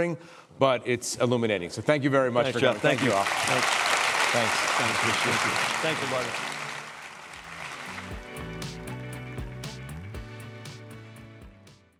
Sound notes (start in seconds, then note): 4.1 applause